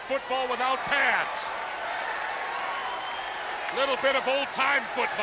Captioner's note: audience cheers